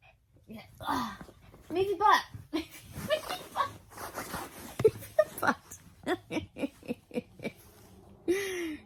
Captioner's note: giggles; laughs more